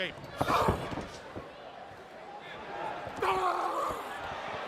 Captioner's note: crowd chatter